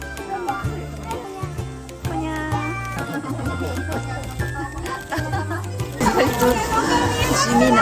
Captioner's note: laughs